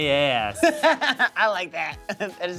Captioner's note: laughs